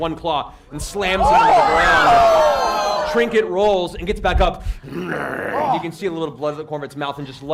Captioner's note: growls